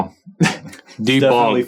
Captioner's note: scoffs